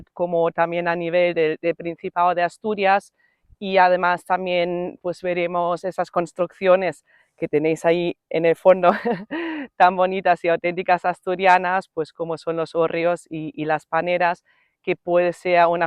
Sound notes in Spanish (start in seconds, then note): 8.9 risas